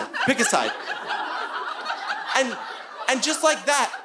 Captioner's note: audience laughing